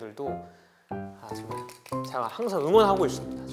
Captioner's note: clap